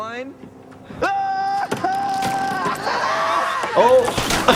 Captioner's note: man shouts